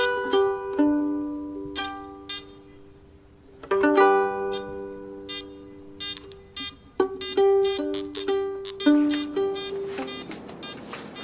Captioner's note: beeping; string-plucking on guitar